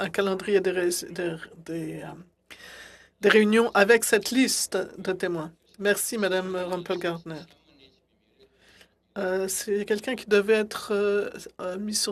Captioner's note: speaking French